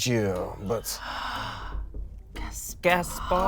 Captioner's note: gasps